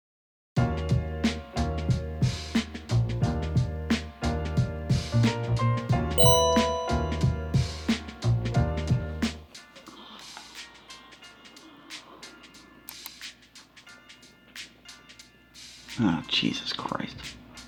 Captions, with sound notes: (gentle music) (computer dings) Oh, Jesus Christ.